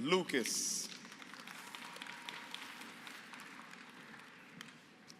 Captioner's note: applause